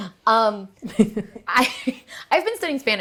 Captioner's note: both laughing